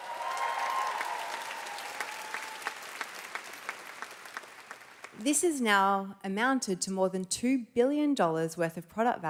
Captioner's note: cheers and Applause